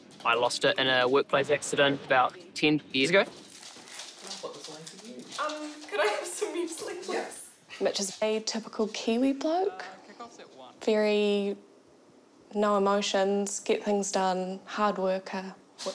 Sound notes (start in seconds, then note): none